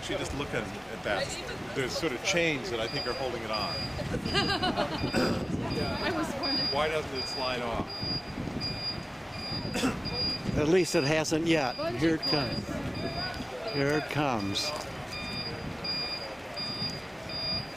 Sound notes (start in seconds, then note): 8.7 truck beeping; 14.8 beeping